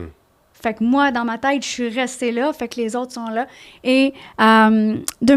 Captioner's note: in french